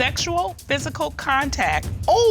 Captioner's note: none